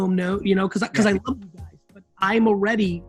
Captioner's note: speech distorted by connection issues